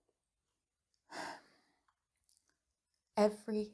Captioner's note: sighs